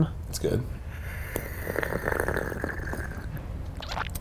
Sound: slurps

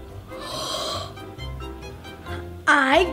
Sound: gasps

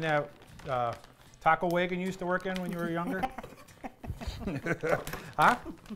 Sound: laughing

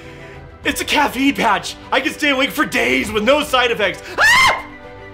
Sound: shrieks

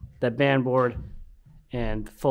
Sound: none

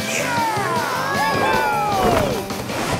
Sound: mooing

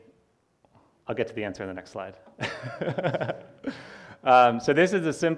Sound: laughs

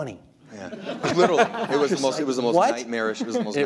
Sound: people laugh

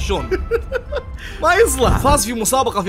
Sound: laughs

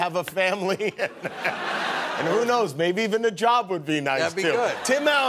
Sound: laughs

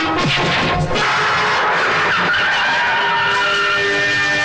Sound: tire Screeching

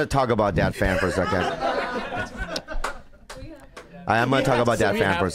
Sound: crowd laughing

